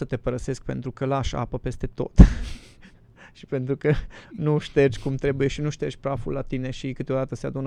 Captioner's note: laughter